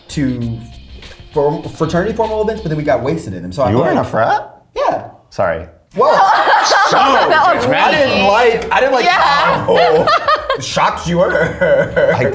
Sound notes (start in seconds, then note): 6.0 laughs